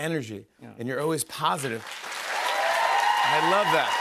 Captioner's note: cheers and applause